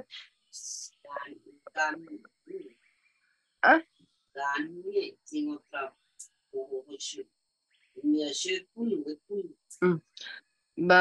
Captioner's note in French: et sa mère parlent paumotu